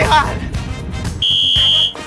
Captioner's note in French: sifflet